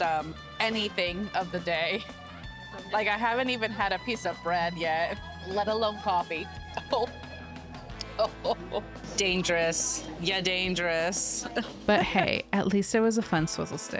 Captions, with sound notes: anything of the day? Like I haven't even had a piece of bread yet, let alone coffee. (laughing) Dangerous, ya dangerous. But hey, at least it was a fun swizzle stick.